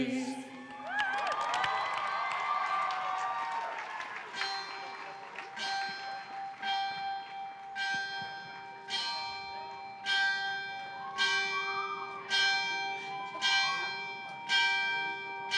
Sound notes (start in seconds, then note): 0.2 cheering; 4.3 bell rung 29 times